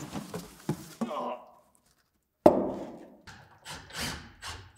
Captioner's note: extinguisher thudding; grunting; drill rasping